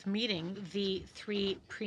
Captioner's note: speaking french